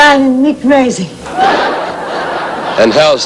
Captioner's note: laughter